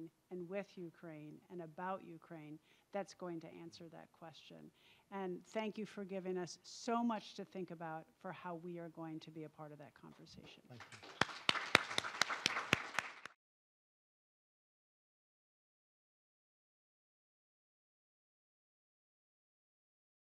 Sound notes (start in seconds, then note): 13.9 all applaud